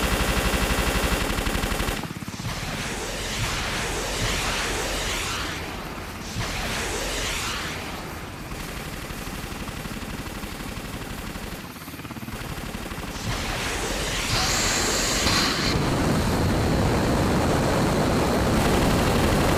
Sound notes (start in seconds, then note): 0.2 gunshots; 3.9 missiles Launch